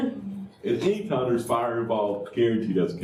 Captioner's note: laughter